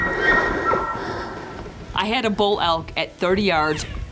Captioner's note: elk call